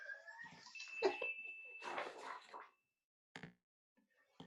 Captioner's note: sfx increase chime